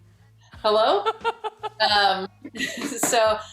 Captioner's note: both laugh